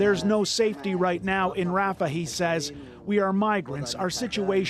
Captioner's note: speaking alternate language